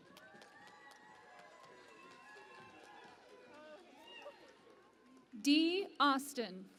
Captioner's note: cheering and Applause